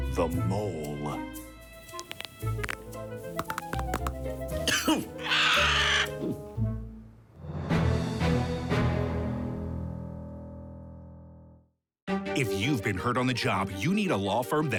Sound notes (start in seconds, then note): 0.9 mysterious music; 1.8 knuckles cracking; 4.0 bird squawks; 4.4 Buddy coughs and gulps; 7.0 triumphant music